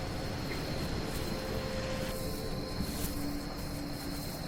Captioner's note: bags crackling